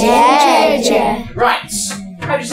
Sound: speaking in mandarin

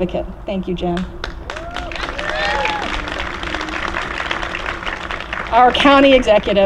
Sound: applause

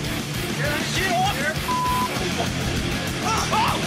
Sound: beep; grunting

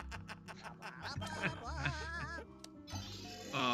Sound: laugh

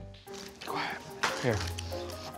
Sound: whispers

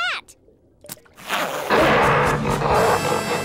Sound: roaring; gasps

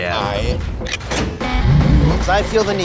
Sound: alarm blaring

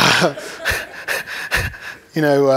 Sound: laughter

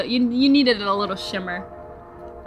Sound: train horn blows

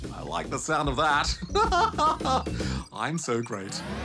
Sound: laughs

